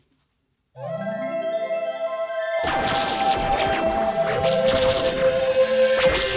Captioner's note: sparkling and zapping